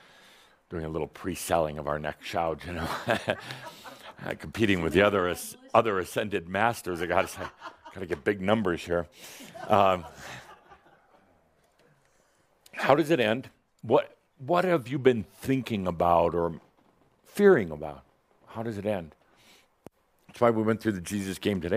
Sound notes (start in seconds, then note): 9.4 some laughter